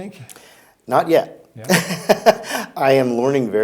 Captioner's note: laughs